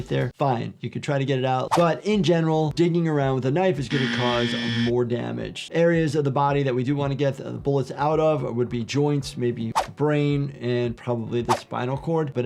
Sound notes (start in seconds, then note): 3.8 buzzer buzzes